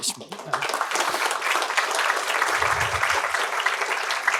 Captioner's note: applause